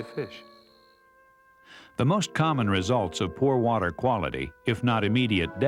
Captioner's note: voiceover